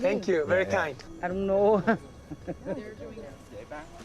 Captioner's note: speaks Vietnamese; speaks Vietnamese, laughs